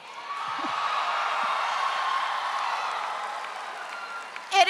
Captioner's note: audience cheering